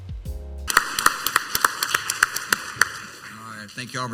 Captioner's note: audience clapping